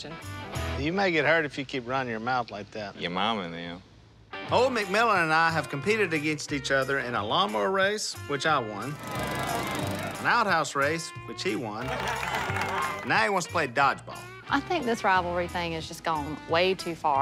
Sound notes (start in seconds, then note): 8.5 cheering; 11.3 laughing